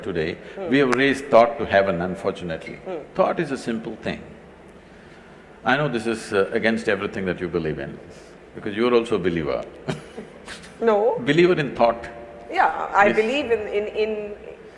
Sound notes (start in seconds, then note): 9.9 laughs